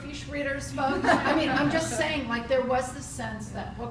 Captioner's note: all laughing